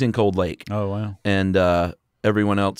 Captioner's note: voiceover